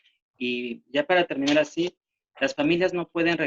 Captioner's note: speaking spanish